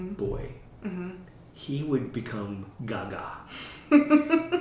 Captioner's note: laughter